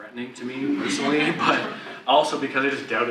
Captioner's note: audience laugh